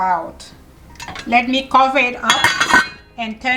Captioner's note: lid banging